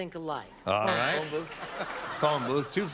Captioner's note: buzzer